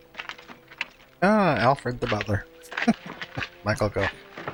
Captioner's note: chuckling